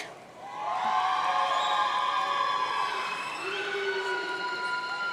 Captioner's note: audience cheering